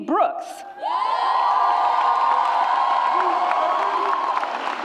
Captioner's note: audience roars